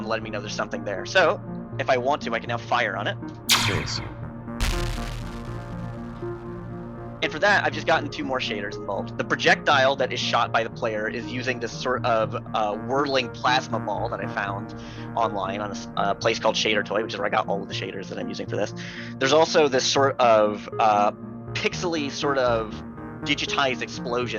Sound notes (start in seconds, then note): 3.5 in-game ship exploding; 4.6 in-game ship shooting